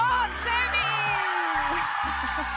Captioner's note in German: Lauter Jubel